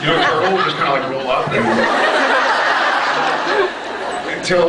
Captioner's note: scattered laughs; laughs